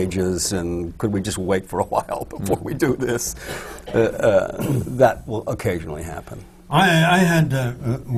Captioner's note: laughs